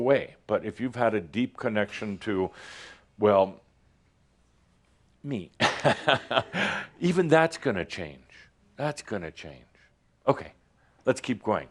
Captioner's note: Adamus chuckles